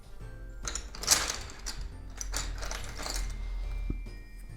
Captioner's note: pencils tumbling